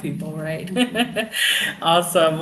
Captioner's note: laughing